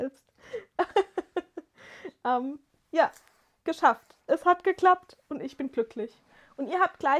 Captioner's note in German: gelächter